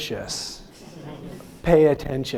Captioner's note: audience laughing